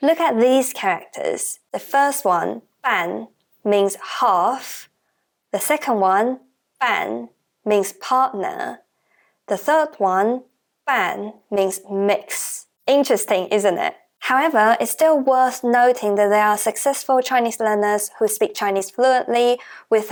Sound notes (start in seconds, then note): 17.1 Mandarin